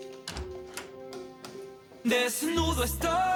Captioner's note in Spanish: El otro celular timbra; Ruido en la puerta